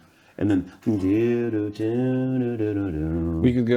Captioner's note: humming